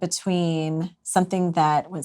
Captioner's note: none